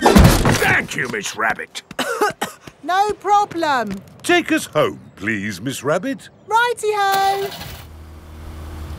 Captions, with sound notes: Thank you, Miss Rabbit. (COUGHING) No problem! Take us home, please, Miss Rabbit. -Righty-ho! -(CAR ENGINE STARTS)